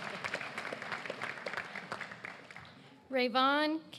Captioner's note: applause